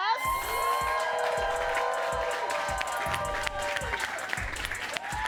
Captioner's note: audience cheering and clapping